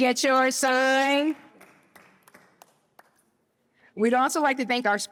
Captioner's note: applause